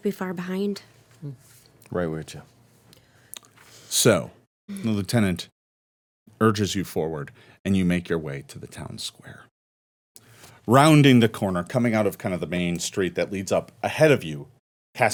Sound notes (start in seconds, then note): none